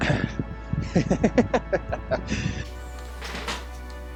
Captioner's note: laughing